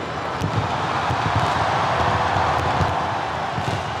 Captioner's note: ominous music; fireworks bursting